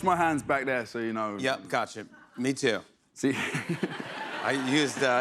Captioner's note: laughs